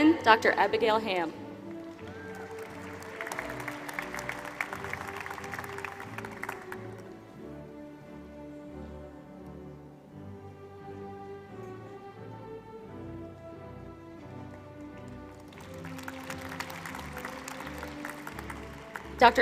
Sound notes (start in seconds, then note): 1.6 applause